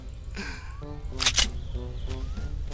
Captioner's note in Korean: 철컥